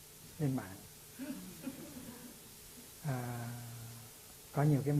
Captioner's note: audience laughs